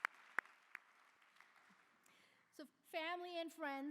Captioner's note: applause